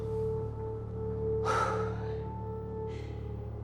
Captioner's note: sighs; exhales